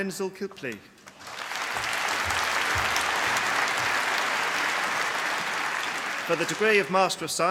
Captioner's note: applause